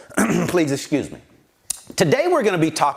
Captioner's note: clears throat